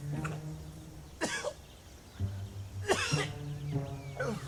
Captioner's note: Merle coughs